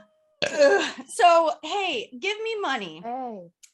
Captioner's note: burp